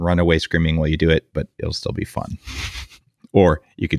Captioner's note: laughs